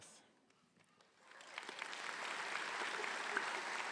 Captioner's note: applause